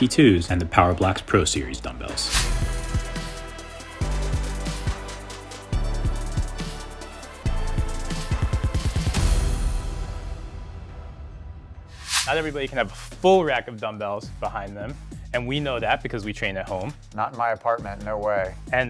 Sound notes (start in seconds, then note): 2.2 air whooshing; 3.0 energetic upbeat music